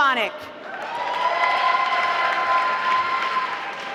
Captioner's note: applause